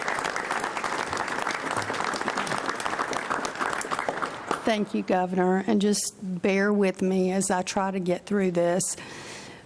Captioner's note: applause